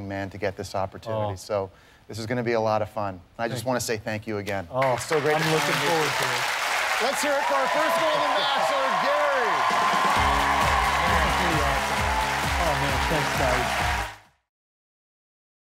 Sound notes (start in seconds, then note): 9.4 cheers and applause